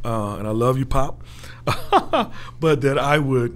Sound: laughing

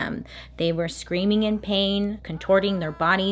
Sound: faint yelling

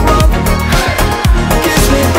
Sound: crowd

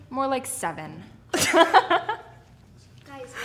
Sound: both laughing

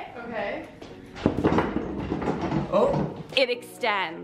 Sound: table rattling

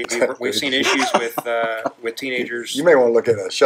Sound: laughing

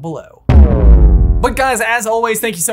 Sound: text booms

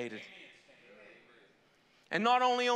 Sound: congregation praising

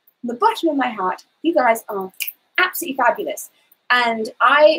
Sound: snaps

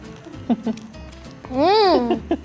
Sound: laughs

